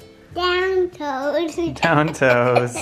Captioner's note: laughs